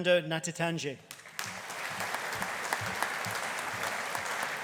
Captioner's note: audience applauding